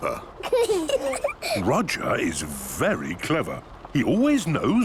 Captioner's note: children giggling